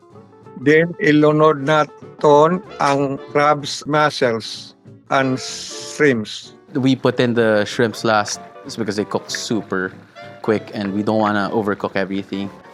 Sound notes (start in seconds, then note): none